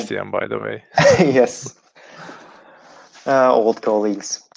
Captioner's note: laughing